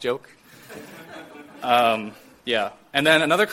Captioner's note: audience Laughter